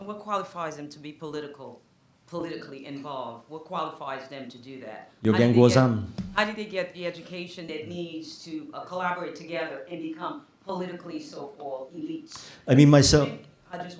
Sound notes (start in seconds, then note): 5.5 non-english speech